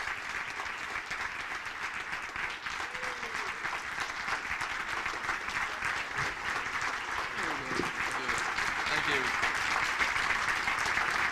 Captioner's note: applause